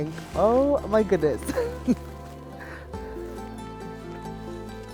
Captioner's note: laughs